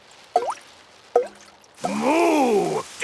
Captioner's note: water dripping